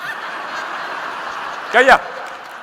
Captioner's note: audience laughing